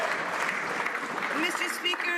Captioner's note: some Applause